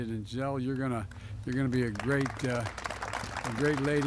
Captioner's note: applause